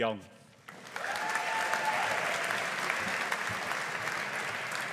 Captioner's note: audience applauding